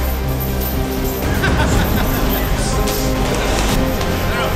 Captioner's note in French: rires